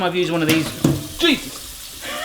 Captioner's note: banging; laughing